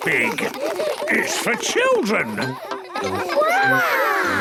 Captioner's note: children laughing